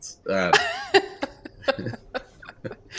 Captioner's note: laughs